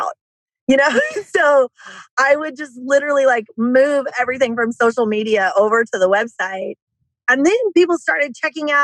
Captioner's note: laughs